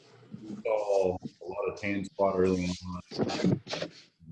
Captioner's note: audio is choppy